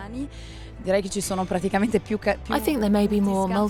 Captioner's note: in foreign language